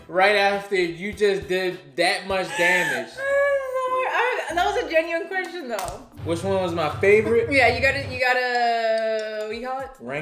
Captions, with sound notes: right after you just did that much damage. - (laughing and gasping) That was a genuine question though. - Which one was my favorite? - Yeah, you gotta, what do you call it?